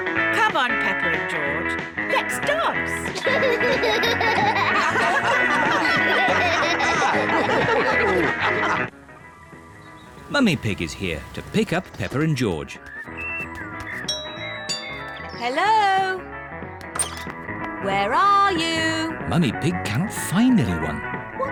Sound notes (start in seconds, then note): 3.1 all laugh; 14.0 doorbell rings